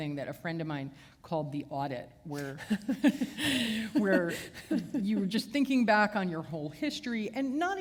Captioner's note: chuckle